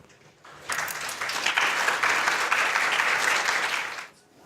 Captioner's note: applauding